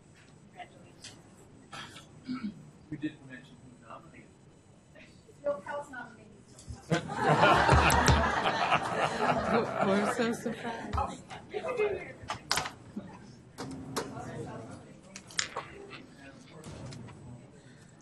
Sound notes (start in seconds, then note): 6.9 audience laughs; 10.0 voiceover